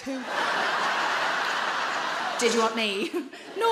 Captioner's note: audience laughing